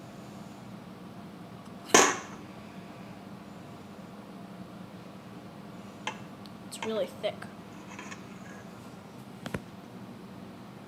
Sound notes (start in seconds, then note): 0.8 inhale